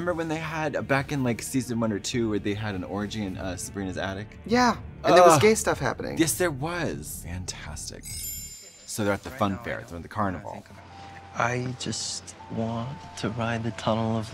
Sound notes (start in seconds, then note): 8.0 twinkling